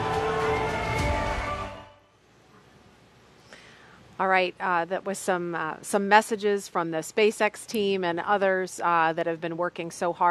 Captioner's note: cheers and Applause